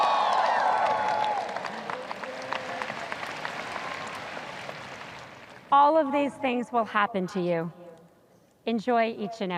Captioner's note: audience cheers